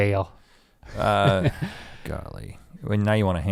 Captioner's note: chuckles